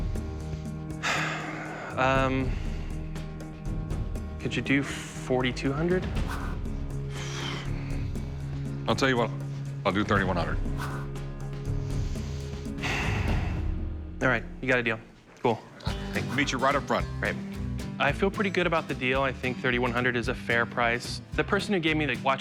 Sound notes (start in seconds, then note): 0.8 sighs; 11.6 exhales deeply